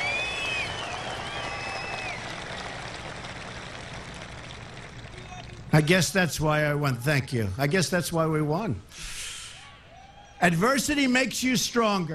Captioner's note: applause